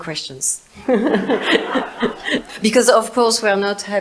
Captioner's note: audience laughs